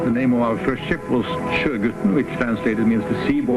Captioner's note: speaks in foreign language